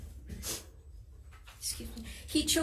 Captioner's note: sniffles softly